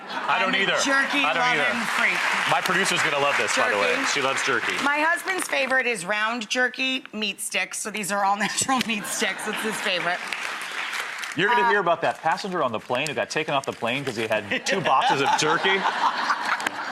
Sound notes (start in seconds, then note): 0.6 audience clapping; 10.3 audience clapping; 14.5 laughing